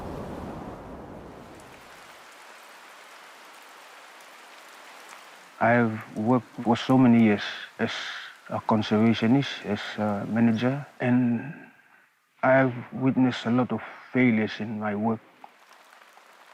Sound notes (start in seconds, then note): 1.5 rain falling